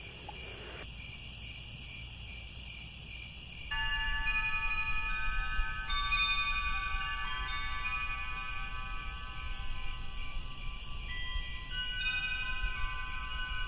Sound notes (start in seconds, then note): 0.8 crickets; 3.6 crickets, wind chimes